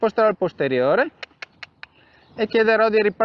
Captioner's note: cluck